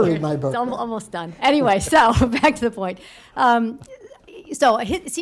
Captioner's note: laughter